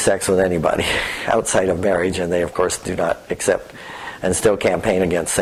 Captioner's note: laugh